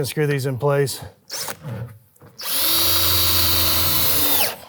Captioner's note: drill whirring